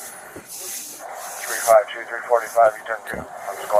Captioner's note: radio chatter